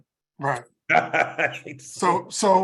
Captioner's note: laugh